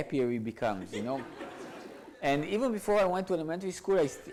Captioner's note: audience laughs